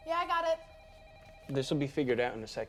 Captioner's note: telephone ringing